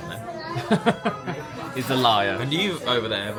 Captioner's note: laughs